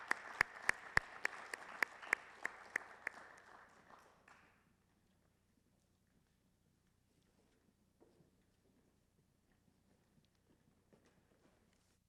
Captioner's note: applause